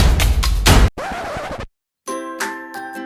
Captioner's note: record screeching; playful lively music